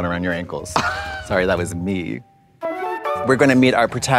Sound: Trixie scoffs

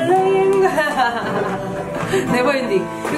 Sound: laughing

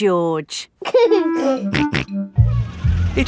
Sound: giggling and snorting

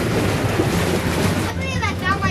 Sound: water splashes

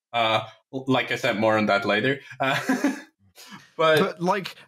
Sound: laughs

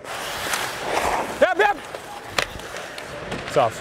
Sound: shouting to teammate

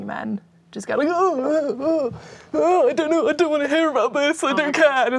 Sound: groaning

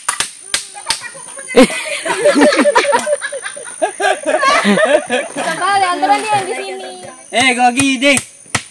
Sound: laughs

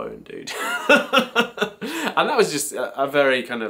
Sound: laughs

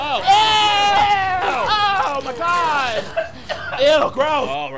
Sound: coughing

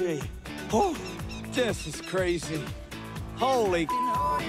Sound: bird squawking

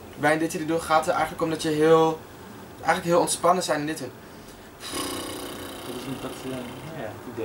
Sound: drone

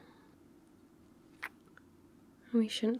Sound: kiss

